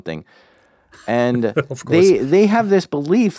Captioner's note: laughs